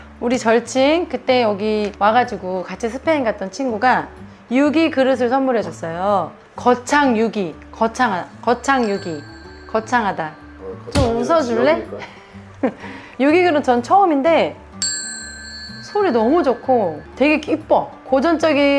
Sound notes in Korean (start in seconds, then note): 12.6 웃음; 14.8 종소리